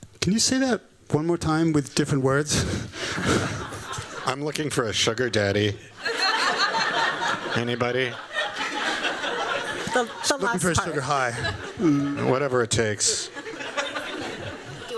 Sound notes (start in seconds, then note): 3.0 laughs; 6.0 laughter